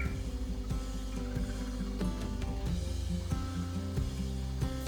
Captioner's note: countdown timer beeps